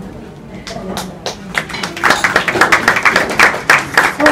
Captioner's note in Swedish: Applåder